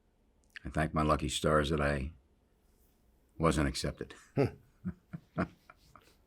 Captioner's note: laughs